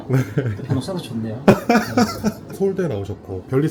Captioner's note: laughs